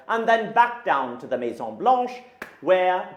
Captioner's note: speaking in a foreign language